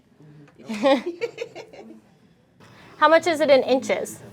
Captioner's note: laughs